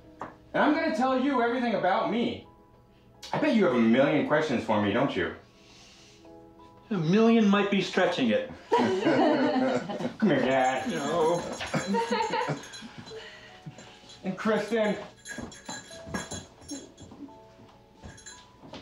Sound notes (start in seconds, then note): 8.6 people laughing; 11.5 women laughing